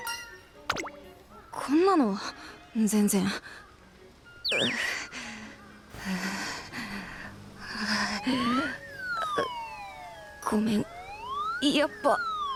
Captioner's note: sigh; huff